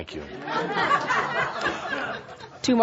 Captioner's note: laughter